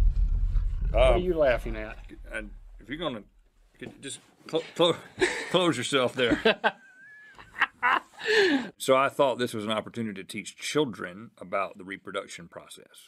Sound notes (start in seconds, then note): 2.4 stuttering; 6.1 laughter